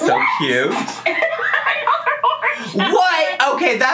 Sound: laughing

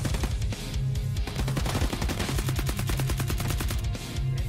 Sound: intense music; rifles firing

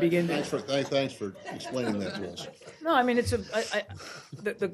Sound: laughter

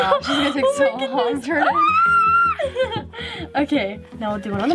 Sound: squeals

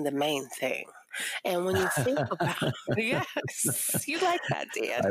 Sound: laughing

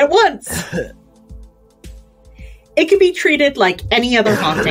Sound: coughs

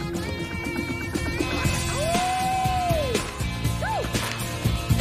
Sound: cheerful rock music; happy yelling

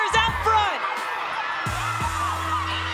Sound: cheering

